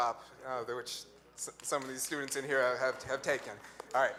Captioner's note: light applause